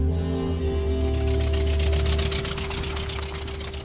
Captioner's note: truck driving